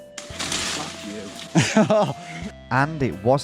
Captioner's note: tree rustling